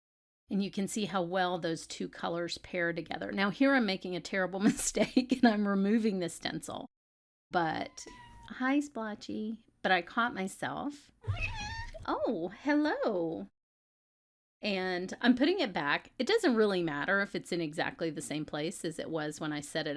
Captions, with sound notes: and you can see how well those two colors pair together. Now here I'm making a terrible mistake, and I'm removing this stencil, (MEOW) but hi Splotchy! But I caught myself (MEOW) oh hello - and I'm putting it back - it doesn't really matter if it's in exactly the same place as it was when I set it